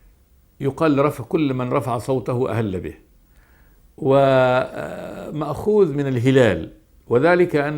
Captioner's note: in Arabic